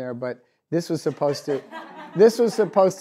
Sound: audience laughs

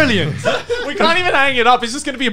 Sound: laughs

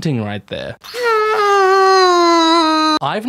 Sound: hhhnnnnnnggggg

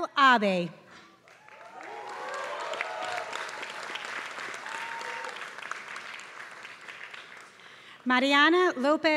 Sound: applause

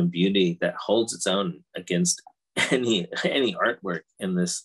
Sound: chuckles

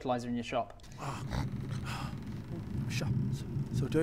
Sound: snore

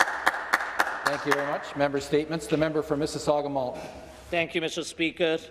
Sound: speaking french

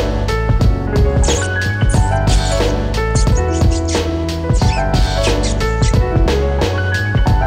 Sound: mice Squeak

